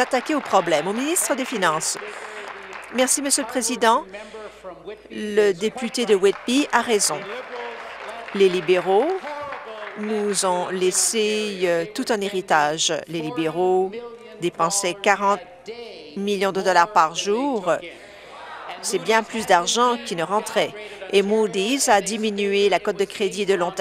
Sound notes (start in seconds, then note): 0.0 applause; 10.9 applause